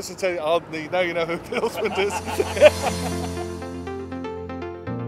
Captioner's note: laughs